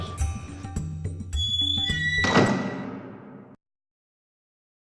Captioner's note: sound: Squeaky lid closing